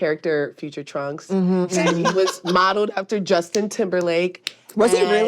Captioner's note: laughs